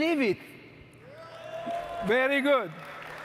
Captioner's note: audience cheering